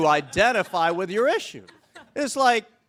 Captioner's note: all chuckle